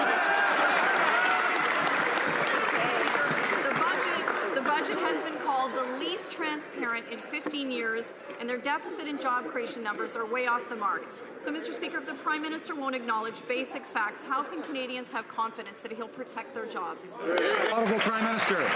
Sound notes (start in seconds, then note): 14.2 laughter/some applause